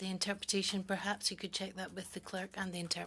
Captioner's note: speaking French